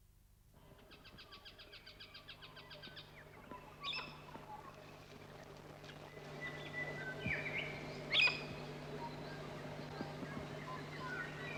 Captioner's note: birds chirping